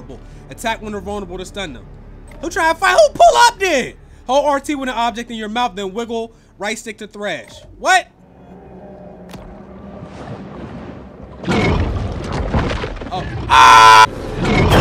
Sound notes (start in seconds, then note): 11.4 growling